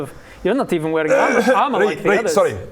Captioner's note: cough